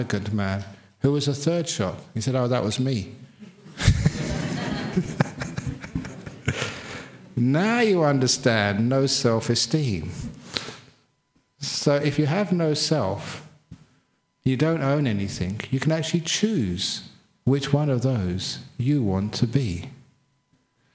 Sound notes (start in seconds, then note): 7.0 laughter